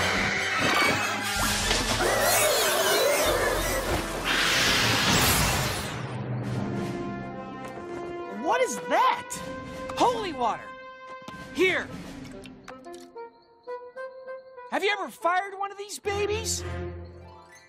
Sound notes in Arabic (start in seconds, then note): 2.3 يئن; 3.8 يصرخ